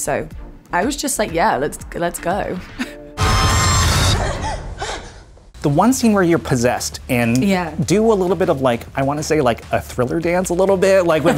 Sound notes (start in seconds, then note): 3.2 electrical zap; 4.2 breathing hard